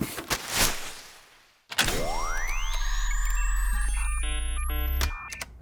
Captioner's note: machine whirs